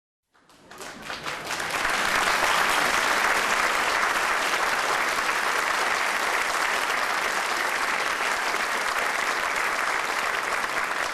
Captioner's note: applause